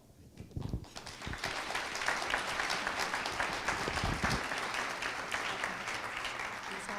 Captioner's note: applause